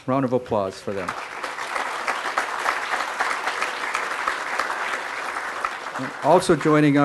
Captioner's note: crowd applause